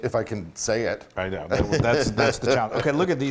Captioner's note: laugh